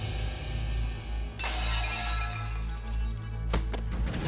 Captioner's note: clanging